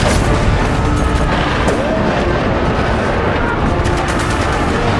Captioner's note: screaming